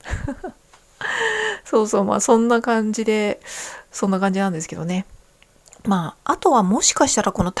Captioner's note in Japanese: 笑い; 息をのむ音